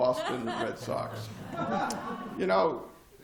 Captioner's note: laughter